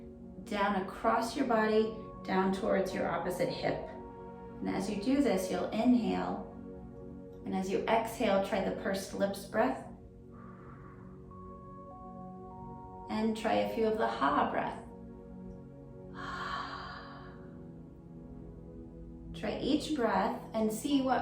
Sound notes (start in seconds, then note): 10.3 pursed lips breathing; 16.1 exhaling deeply